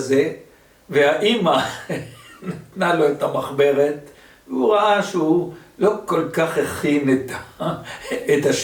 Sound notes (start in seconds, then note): 1.8 chuckles; 1.8 laughter